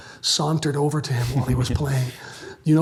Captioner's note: laughs